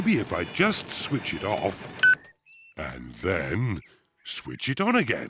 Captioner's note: beeps; beeps